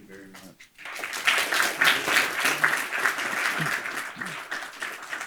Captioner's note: audience clapping